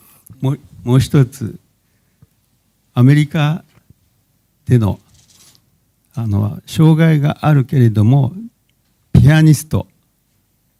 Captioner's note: speaking japanese